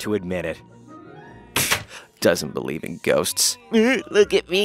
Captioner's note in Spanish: puerta se cierra; tono burlón